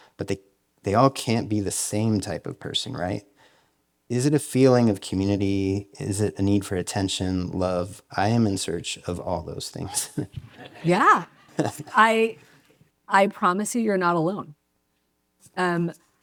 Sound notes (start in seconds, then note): 9.8 laughs; 11.3 audience laughs